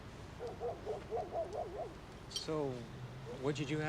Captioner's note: dog barks